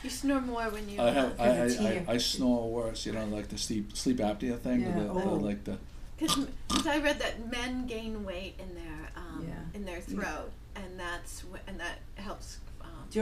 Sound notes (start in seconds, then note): 0.1 voiceover; 5.2 voiceover